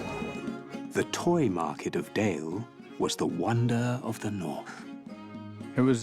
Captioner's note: narrator reading on-screen text